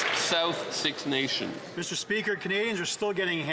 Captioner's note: applause